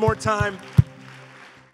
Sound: congregation applauding

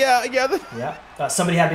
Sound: laugh

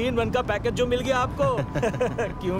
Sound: both chukle

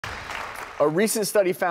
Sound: applause

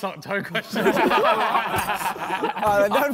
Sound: men laughing

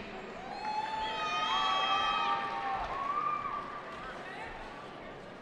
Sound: cheering

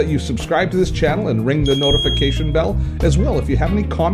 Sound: dings

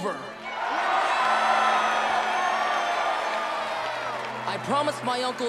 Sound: cheering

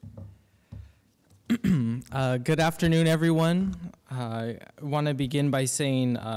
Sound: clearing throat

